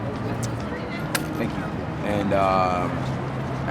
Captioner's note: coins clank